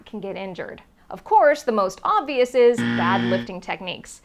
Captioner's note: buzzer